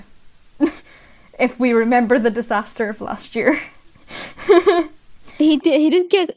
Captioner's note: laughs